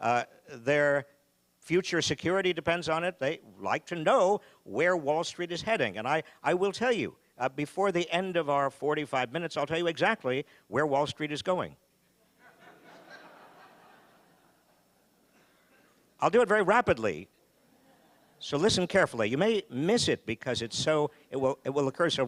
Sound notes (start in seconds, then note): 12.4 audience laughing